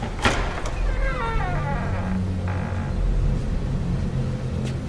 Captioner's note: lock clacks; door creaks